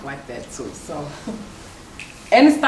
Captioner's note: laughs